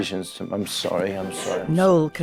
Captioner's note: visitor sobbing